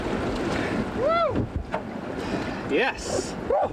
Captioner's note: man whooping